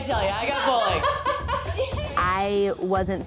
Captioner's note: laughs